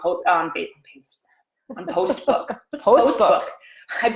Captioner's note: chuckles